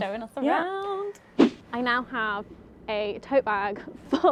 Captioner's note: air whooshes